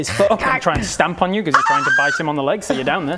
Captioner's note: scared fat lizard noise!